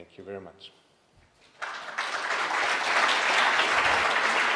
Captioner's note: applauding